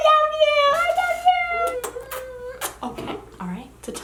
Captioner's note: smooching